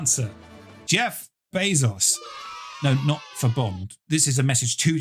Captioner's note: crowd cheering